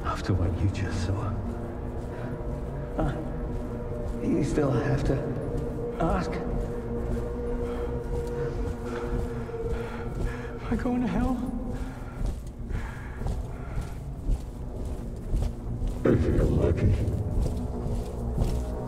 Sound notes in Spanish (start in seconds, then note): 7.1 Pasos acercándose; 10.0 Respirando profundamente